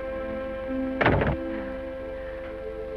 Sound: door shuts

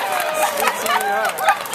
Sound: cheers

